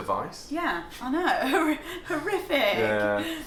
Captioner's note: laughs